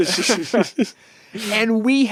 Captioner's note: all laughing